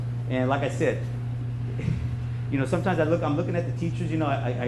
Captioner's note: sighs